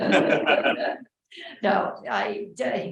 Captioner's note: audience laughing